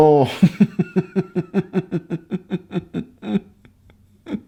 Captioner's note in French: Rire